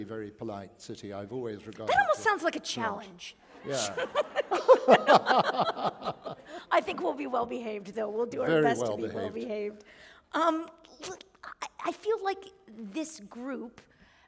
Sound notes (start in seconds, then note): 3.5 laughter